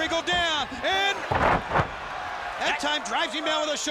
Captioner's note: wrestlers thudding